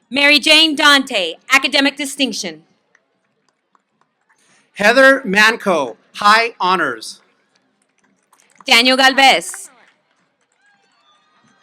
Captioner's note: applause